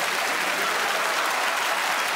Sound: applause

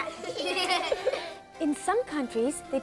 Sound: kids laughing

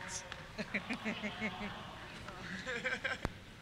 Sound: laughter

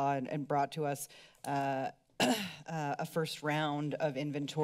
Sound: clears throat

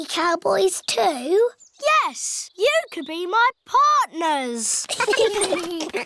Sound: all giggling

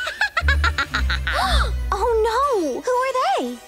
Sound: cackles; all gasp

